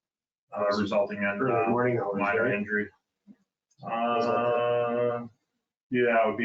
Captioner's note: mumbling